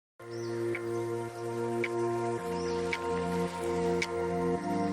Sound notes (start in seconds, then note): 0.2 birds chirping; 0.2 inspiring music; 1.9 water babbling